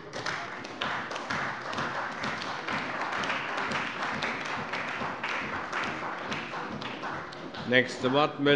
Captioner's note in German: Beifall bei der CDU